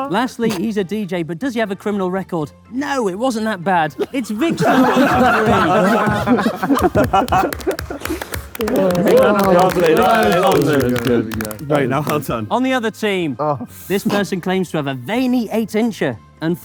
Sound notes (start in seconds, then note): 4.0 group laughs; 7.9 group applauds